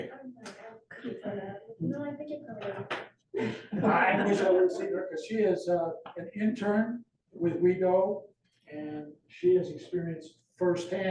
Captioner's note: laughter